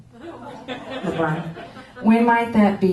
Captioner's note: laughter